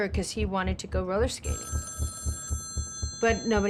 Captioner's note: telephone ringing